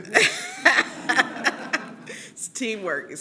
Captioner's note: laughter